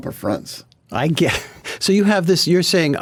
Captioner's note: laughs